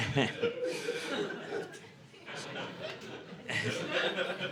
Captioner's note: audience laughing